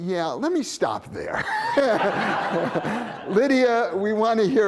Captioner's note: laughter